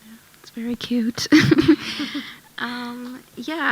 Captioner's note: chuckles